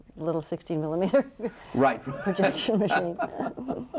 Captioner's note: laughs